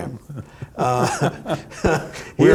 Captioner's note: laughs